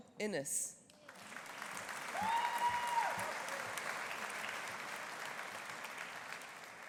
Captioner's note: audience applauding; audience cheering